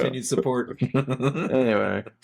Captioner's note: laughing